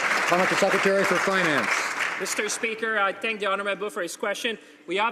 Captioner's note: some Applause